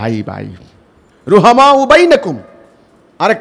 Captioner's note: Arabic